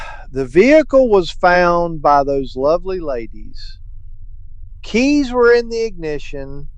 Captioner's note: exhausted sigh